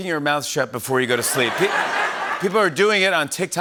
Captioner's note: laughter